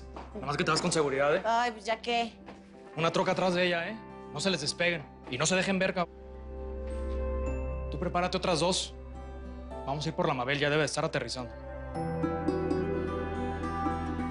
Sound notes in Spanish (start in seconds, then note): none